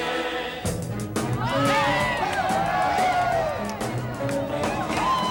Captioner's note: company cheering and whooping